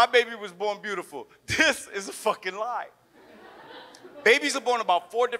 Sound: audience laughs

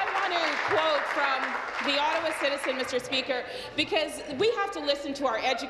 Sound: applause

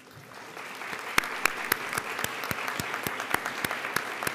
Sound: audience applauding

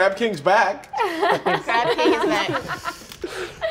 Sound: laughing

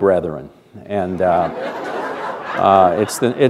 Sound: laughter

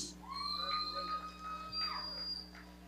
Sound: audience cheering

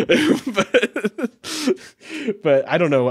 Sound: laughing

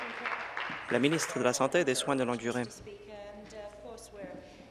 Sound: applause

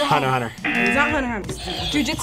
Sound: buzzer; buzzer rings

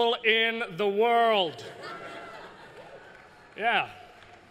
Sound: laughter

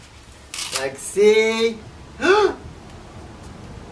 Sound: gasp

